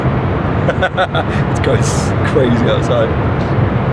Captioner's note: laughs